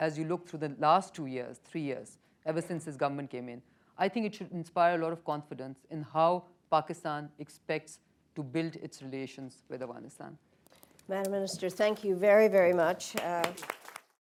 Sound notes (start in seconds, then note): 12.6 applause